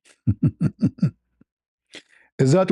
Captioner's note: ketawa